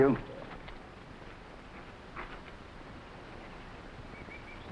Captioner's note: animals chattering